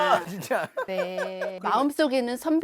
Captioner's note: hahahaha…